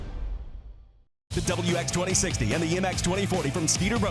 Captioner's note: voiceover